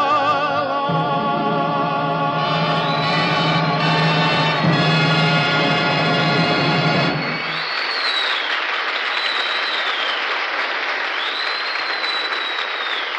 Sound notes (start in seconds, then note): 6.3 whistling/Cheering; 7.2 whistling/Applause